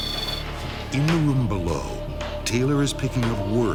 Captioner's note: voiceover